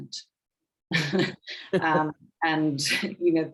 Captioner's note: women chuckling